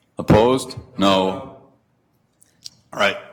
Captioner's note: multiple voices